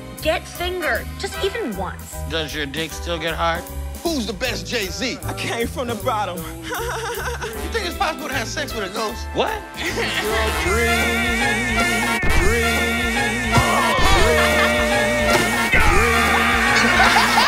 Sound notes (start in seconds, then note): 6.6 whiny chuckle; 9.8 chuckles; 13.5 laughs